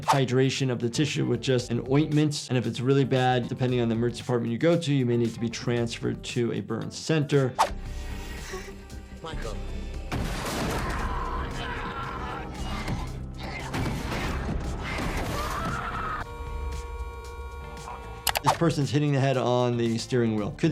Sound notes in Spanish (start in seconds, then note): 8.0 música de suspenso; 10.1 cuerpo chocando; 10.7 hombre gritando; 14.9 mujer gritando; 16.1 tocando la bocina